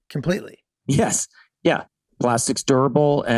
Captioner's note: Glenn laughing amusingly